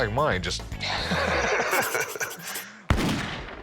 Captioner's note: both laugh